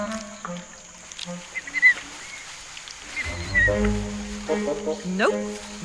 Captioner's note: orangutans squeaking